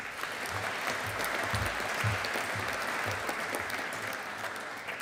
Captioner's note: audience applauding